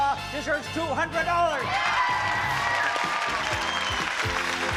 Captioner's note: cheering